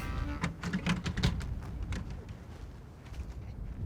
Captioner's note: door rattling